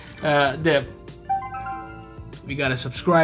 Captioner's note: chime dings